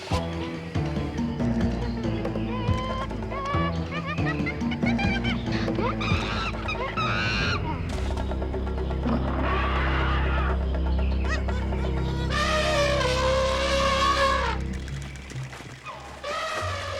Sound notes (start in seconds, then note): 0.2 dramatic music; 6.4 cheetah screeching; 12.7 Tantor trumpeting